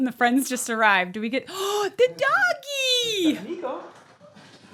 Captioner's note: gasps